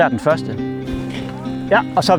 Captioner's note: shout in distance